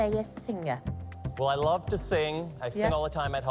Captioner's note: none